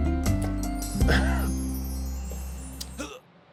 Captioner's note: coughs